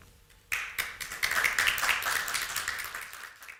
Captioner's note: clapping